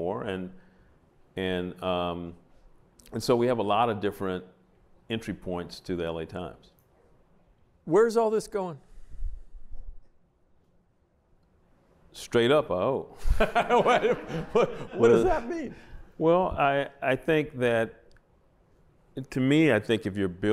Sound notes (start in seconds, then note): 13.2 laughter